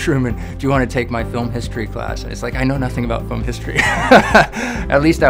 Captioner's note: laughing